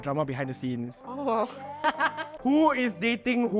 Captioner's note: laughs